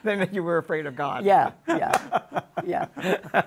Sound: laugh

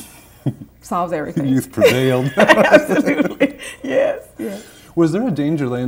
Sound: laughter

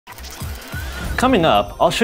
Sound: gears whirring

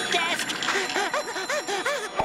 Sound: panting

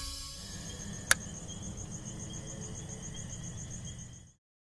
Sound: crickets chirping

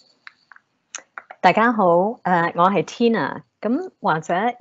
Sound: Cantonese

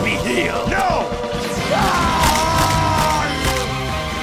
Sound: screaming

